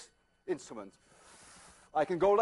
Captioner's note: inhales